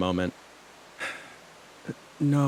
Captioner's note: sighs